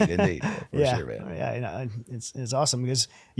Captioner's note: laughing